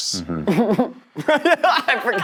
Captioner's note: laughing